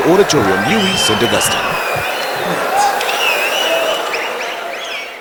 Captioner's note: wild applause and cheering for 22 seconds